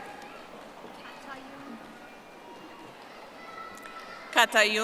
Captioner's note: audience applauding